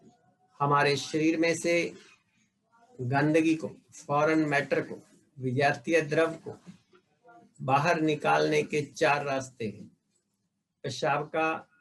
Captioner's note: breathing